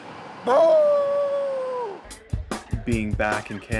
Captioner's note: imitating dog's howl